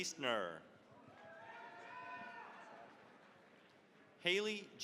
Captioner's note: cheering, applause